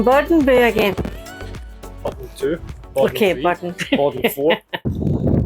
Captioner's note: laughter